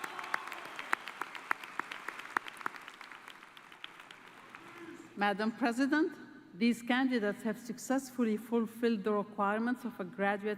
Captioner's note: applause